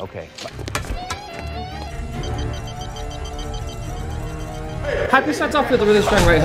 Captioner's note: building alarm blaring